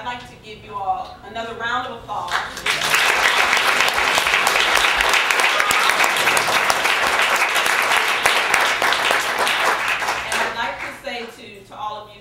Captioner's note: applause and cheers